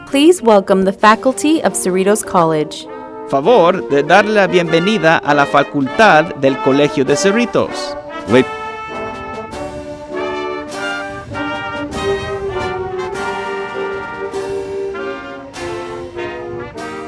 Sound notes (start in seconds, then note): 3.3 speaking spanish; 8.2 band playing